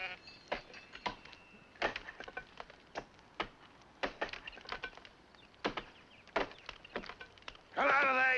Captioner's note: sheep baa; axes chopping at tree